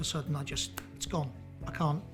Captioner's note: snaps